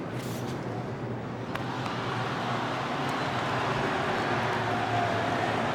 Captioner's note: audience cheering